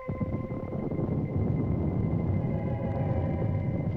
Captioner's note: thunder rumbling